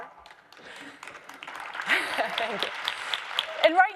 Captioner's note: crowd applauds